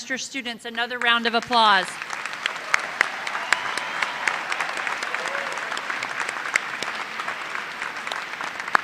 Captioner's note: cheers and applause